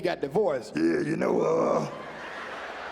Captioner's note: deep voice